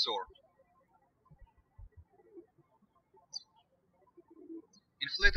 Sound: birds chirping

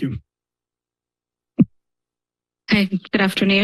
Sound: silence

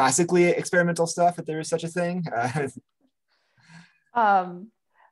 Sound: chuckles

